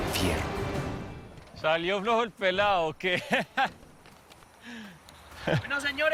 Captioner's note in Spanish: Risas